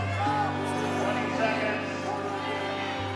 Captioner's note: announcer's voice